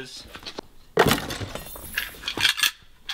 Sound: thuds; metallic clanging; rattling

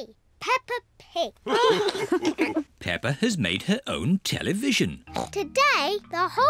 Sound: all laugh

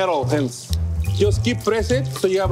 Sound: oil sizzling

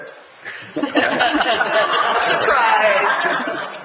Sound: laughs

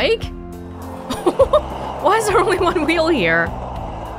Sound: chuckles

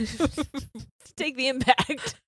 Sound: both laughing

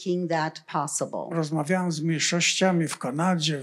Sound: foreign language

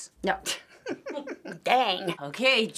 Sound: laughing

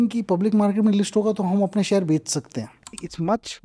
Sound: speaks in Hindi

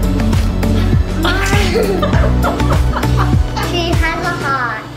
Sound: laughing

